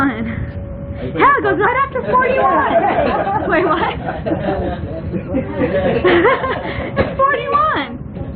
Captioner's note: laughter